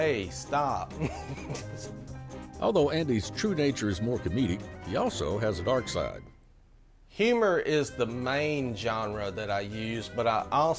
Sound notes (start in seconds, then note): 0.9 laughter